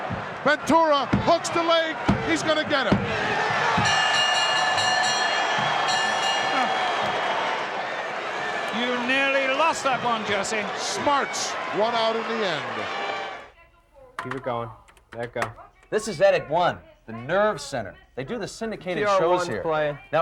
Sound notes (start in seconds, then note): 3.8 bell ringing